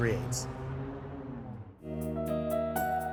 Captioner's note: traffic noise; gentle music